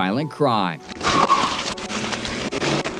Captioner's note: tires screeching